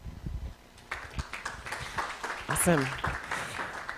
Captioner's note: applause